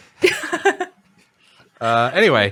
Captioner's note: laughing